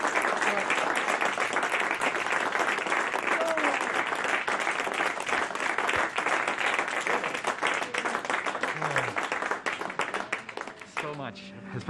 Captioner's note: applause